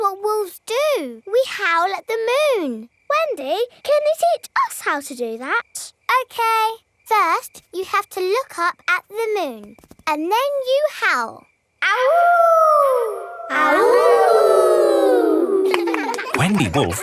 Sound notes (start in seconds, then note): 11.9 howling; 13.9 kids howling